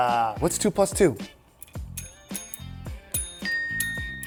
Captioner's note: bell rings